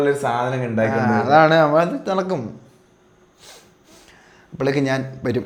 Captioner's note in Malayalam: ചീറ്റുന്നു